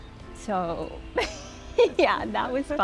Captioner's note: laughs